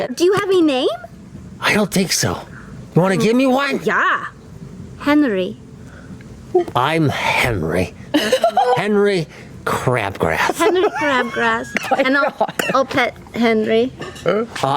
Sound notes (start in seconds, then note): 1.9 in a weird voice with a heavy lisp